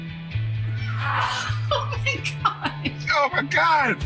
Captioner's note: laughing